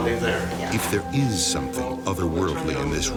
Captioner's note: voiceover